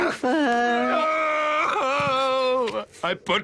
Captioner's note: exclaims